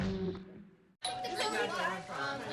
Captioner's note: doorbell ringing